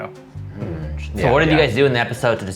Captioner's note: humming